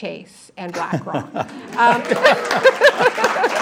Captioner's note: applause